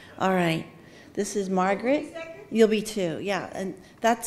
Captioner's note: none